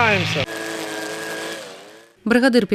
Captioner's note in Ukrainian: Шум електрокоси